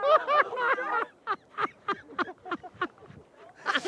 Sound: laughing

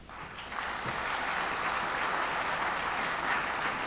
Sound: audience applauds

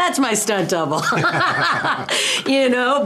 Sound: laughing

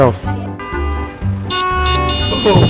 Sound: honk!; beep! beep! beep!

